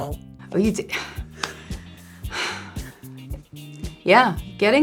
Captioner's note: sigh